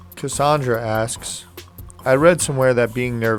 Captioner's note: voiceover